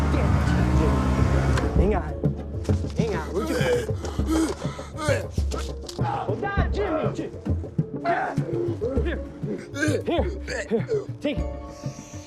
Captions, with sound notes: Hang on. Hang on. (Jimmy gasping) I got it, Jim. Here, here. Take it.